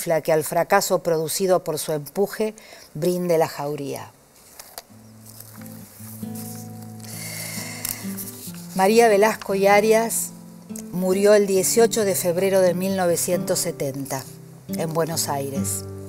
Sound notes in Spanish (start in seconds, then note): 4.8 música suave; 7.5 mueve papeles